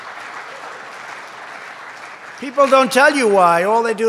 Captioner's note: applause